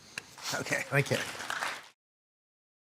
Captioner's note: applause